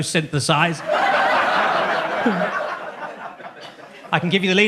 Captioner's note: audience laughs